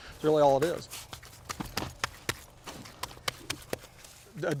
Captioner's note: slapping